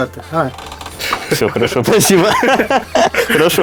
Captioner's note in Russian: смеются